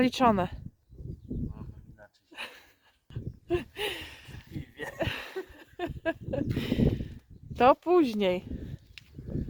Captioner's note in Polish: śmiech